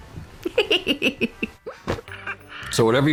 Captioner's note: giggling